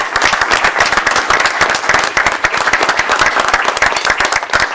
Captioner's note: applause